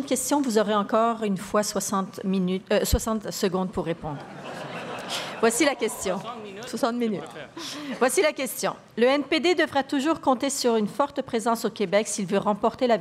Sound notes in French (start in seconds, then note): 4.1 rires